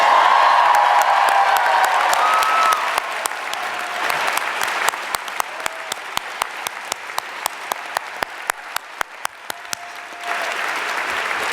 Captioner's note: applause